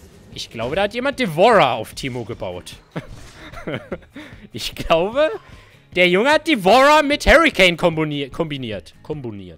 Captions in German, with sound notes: Ich glaube da hat jemand Devourer auf Teemo gebaut *Lachen* Ich glaube... der Junge hat Devourer mit Hurricane komboniert, kombiniert, komboniert